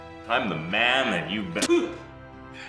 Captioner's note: spit